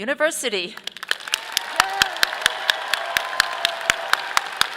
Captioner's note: audience applauding